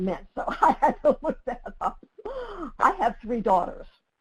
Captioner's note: laughing